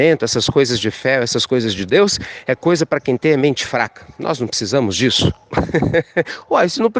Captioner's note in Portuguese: risos